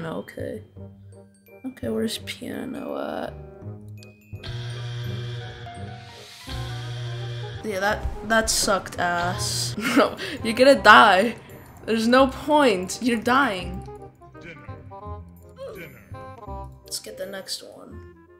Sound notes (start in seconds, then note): 4.4 buzzer